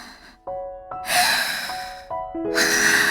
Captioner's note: exhale; inhale; exhale